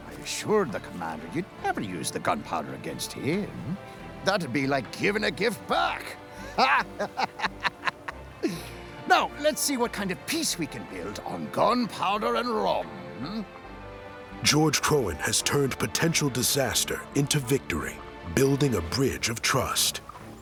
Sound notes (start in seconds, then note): 6.3 laughs